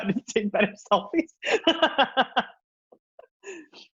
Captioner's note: laughs